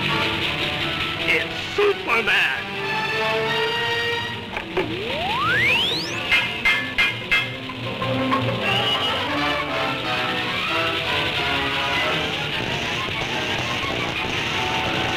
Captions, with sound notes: - It's Superman! (machine rings) (electricity zaps)